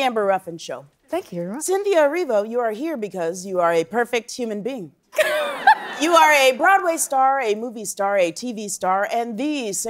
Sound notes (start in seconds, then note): 5.2 laughing